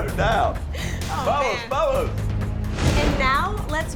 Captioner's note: intense music; laughter